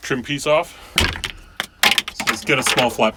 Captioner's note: banging